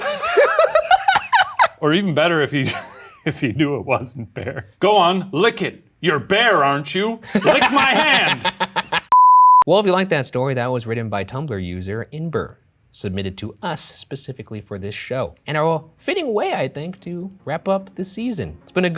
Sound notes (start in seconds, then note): 0.0 both laugh; 7.2 laughs; 9.4 broadcast signal